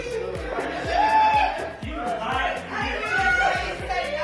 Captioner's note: people chattering